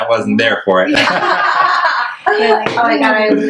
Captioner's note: laughs